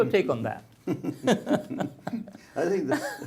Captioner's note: both laugh